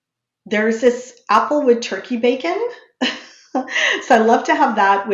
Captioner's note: chuckles